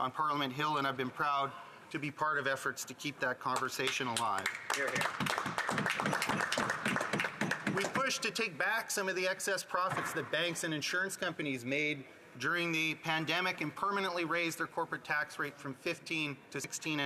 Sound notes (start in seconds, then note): 7.9 some Applause